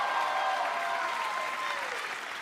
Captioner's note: cheers and applause